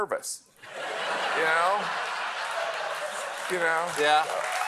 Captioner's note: laughter